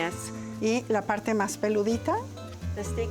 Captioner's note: speaks Spanish